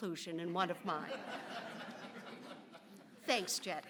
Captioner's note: audience laughs